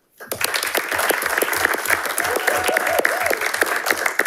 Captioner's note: audience applauding